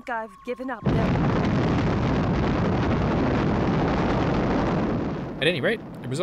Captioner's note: earth-shattering kaboom